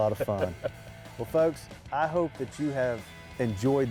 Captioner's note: laughs